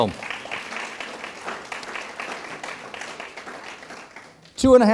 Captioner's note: audience applauds